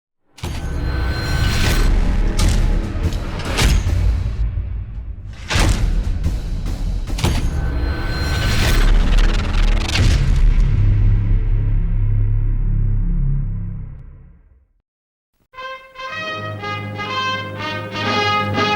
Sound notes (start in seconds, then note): 0.7 whirring and thudding; 15.5 military music